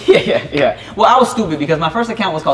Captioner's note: laughing